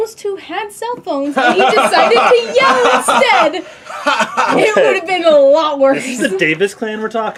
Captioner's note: laughing loudly